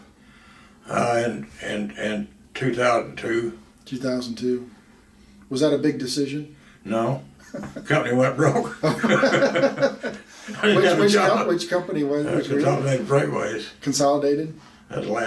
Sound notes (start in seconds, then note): 8.4 both laugh